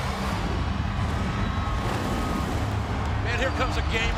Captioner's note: video swooshing